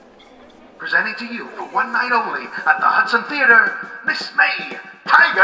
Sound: Sounds of a Broadway theatre

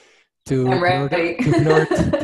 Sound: giggles

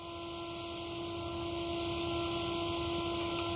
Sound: engine hum

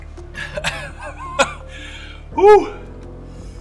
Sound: coughs

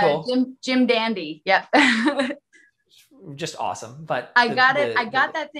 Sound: chuckles

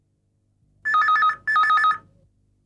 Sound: phone rings

